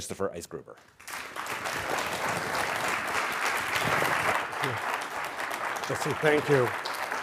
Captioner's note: applause